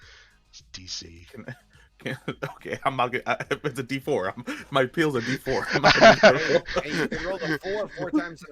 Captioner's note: stammers